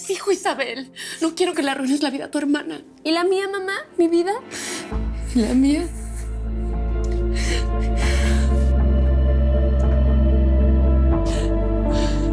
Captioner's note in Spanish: Sollozos